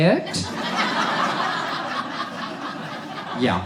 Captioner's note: audience laughs